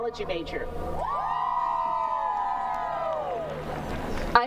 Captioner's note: cheering